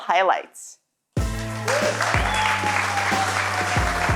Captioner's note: audience cheering; applause